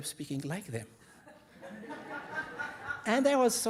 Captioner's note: audience laughing